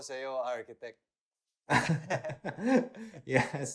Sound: laughs

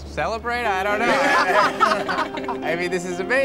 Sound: group laughs

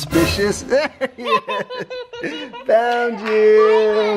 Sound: laughing

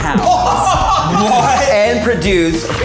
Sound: all laughing

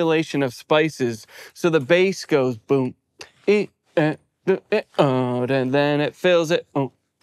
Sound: vocalizes

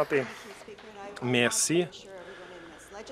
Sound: some Applause

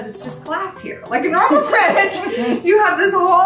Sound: giggling

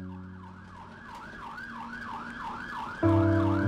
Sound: siren wailing

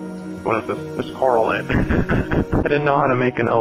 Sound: laughter

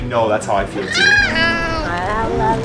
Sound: squealing

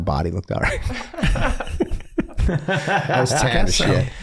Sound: everyone laughing

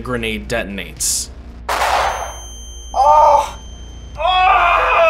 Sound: incoherent screaming

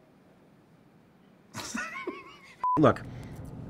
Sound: laughs

